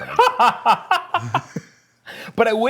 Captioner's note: laughter